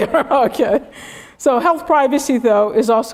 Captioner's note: laugh